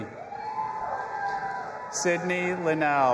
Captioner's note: audience applauding and cheering